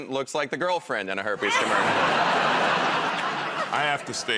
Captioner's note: laughter